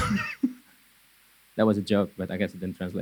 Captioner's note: laughing